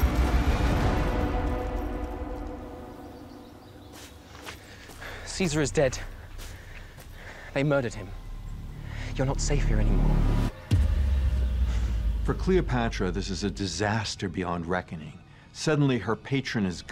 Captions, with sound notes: [suspenseful music playing] [birds chirping] Caesar is dead. They murdered him. You're not safe here anymore. For Cleopatra, this is a disaster beyond reckoning. Suddenly, her patron is gone.